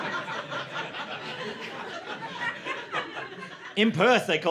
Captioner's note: laughter